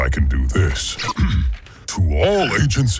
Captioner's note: clears throat